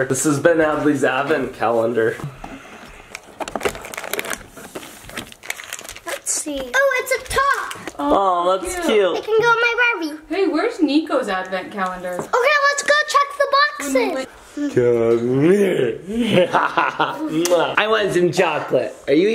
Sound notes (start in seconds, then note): 2.4 person sighing; 2.8 plastic crinkling; 16.1 person laughing